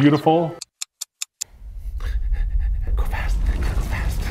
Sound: clock ticking

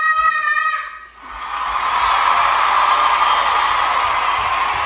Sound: applause

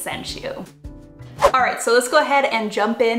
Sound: whoosh

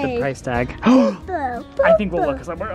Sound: gasps

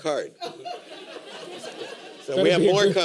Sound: laughter

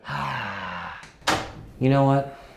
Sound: door clicks

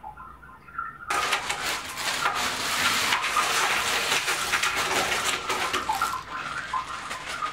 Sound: ice clattering into bathtub

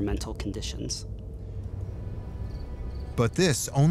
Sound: eerie music; crickets chirping

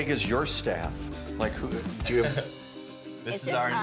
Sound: chuckles

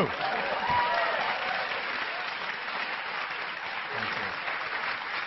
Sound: cheering and clapping

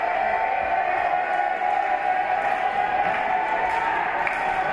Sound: chanting

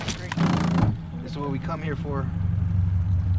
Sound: fish thrashing

